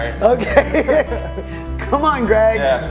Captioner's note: laughs